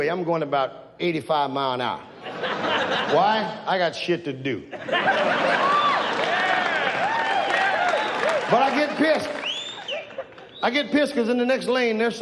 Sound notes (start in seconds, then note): 2.2 audience laughs; 5.1 audience cheers